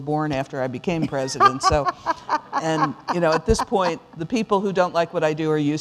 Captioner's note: laughter